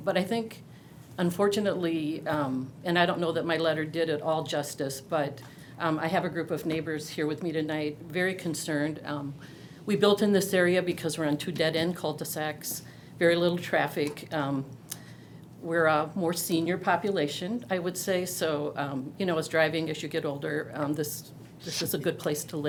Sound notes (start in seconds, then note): none